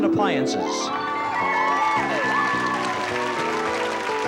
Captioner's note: cheering and applause; playful music